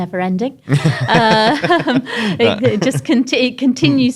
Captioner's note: laughs